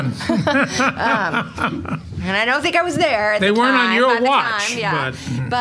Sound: laughing

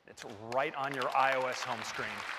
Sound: applause

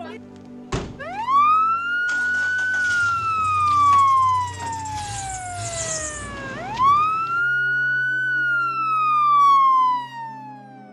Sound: siren

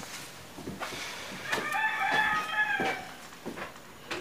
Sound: chicken clucking

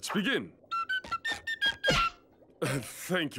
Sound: whistling

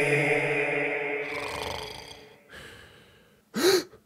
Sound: snoring

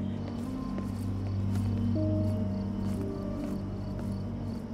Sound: crickets chirping; soft dramatic music continues

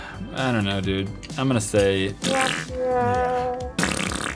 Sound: fart noise x2

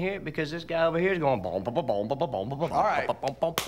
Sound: imitates bubbly bass line

